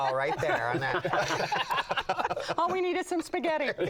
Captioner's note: laughs